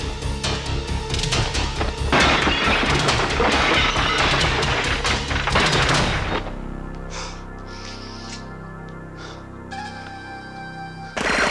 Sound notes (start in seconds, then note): 0.1 dynamic music; 2.1 glass shattering; 6.2 body thudding; 9.9 gentle music